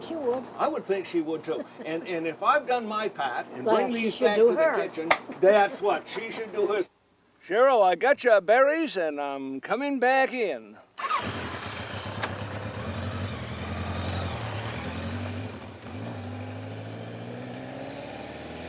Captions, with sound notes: - I should think she would. - I would think she would too. And, and if I've done my part and bring these to her in - Then she should do hers. - the kitchen. That's what, she should do hers. Cheryl, I got your berries and I'm coming back in. (motorcycle engine rumbling)